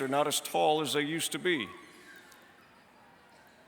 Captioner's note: none